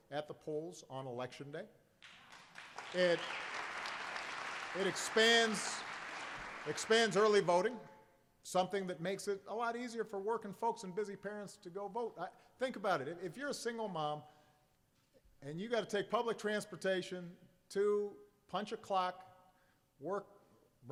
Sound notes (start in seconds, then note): 2.0 applause